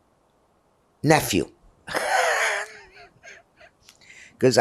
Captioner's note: laughing